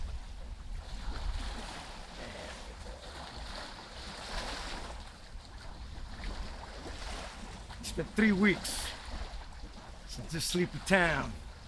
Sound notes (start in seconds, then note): 1.2 water splashing